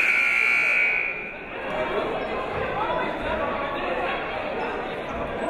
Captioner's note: buzzer blaring